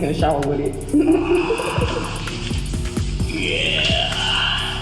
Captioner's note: laughing